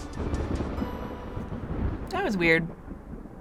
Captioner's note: thunder rumbles